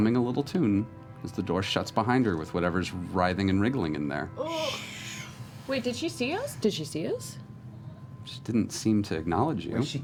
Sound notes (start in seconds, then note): none